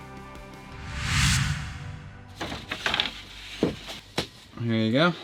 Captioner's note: air swishing